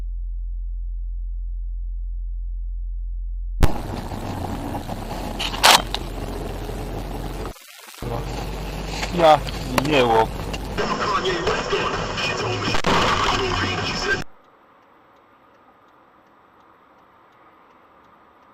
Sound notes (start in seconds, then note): 0.8 BOOM then crash goes the camera; 12.7 splat!